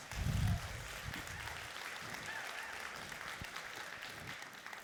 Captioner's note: applauding and cheering